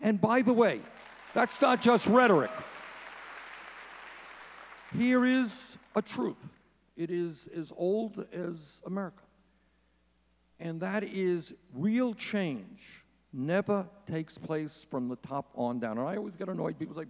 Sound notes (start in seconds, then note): 2.9 audience cheering